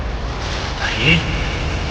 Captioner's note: thunder